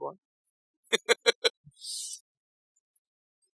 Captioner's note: laughs